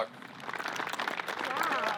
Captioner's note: staff clapping